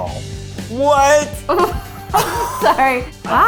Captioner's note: laughs